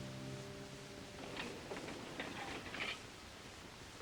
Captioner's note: metal clanging